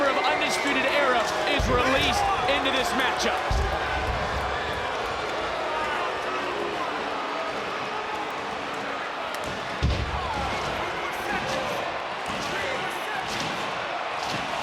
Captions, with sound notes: of Undisputed Era is released into this matchup. (crowd boos) (mat shudders) (wrestlers chatter)